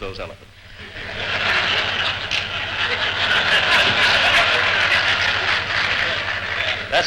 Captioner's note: laughter